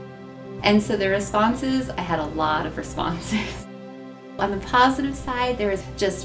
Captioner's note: laughs